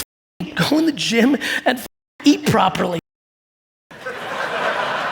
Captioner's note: audience laugh and clap